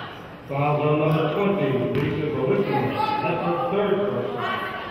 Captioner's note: murmurs